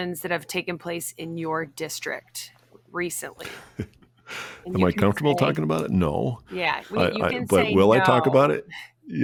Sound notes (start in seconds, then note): 3.7 laughs